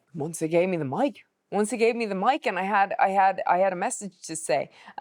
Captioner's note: none